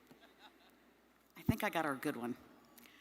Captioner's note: audience member laughing